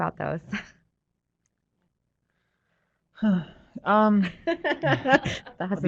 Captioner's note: laughter; sigh